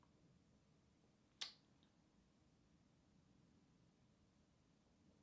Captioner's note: clicks teeth